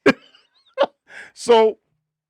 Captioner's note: laughing